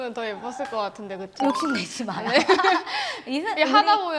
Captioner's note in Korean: 웃음